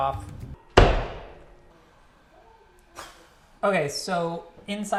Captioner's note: knife banging against board